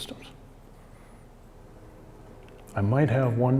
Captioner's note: long pause